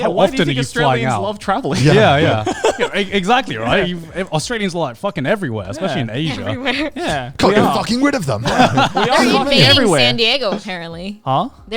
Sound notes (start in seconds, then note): 1.6 laughs; 8.8 all laughing